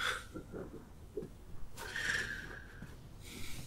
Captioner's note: scoffs, chuckles